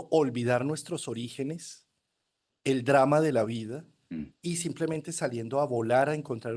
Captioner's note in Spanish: carraspeo